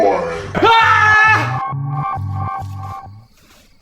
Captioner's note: screaming